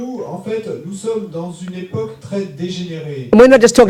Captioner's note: speaking in French